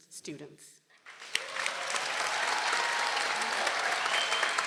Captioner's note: people cheering